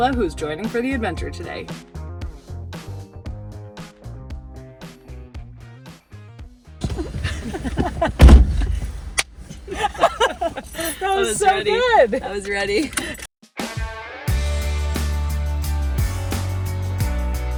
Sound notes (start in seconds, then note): 3.1 groovy rock music; 9.5 laughs; 13.4 upbeat rock music